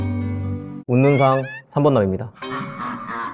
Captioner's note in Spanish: Riéndose